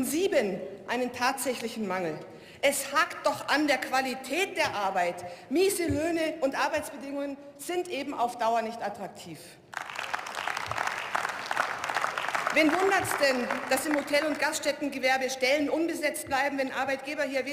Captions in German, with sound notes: in sieben einen tatsächlichen Mangel. Es hakt doch an der Qualität der Arbeit. Miese Löhne und Arbeitsbedingungen sind eben auf Dauer nicht attraktiv. (Beifall) Wen wundert es denn, dass im Hotel- und Gaststättengewerbe Stellen unbesetzt bleiben, wenn Arbeitgeber